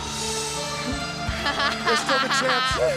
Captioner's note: Daffney laughing